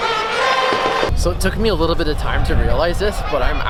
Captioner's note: chanting and cheering